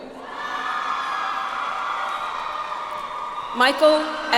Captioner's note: audience applauds